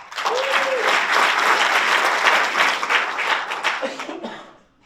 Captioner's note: audience applauds